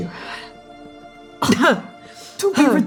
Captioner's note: coughing